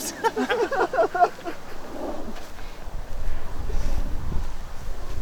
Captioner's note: laughing